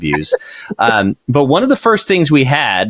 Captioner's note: laughing